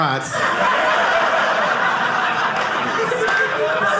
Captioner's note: audience laughing